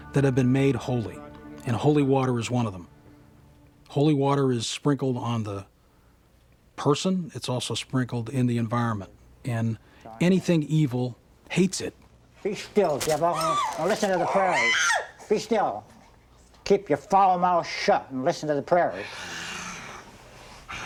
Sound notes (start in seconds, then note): 13.3 gasps; 14.1 screams; 20.6 groaning